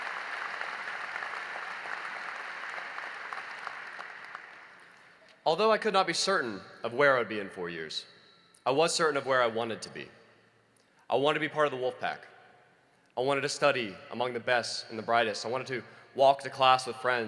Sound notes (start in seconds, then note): 0.0 applause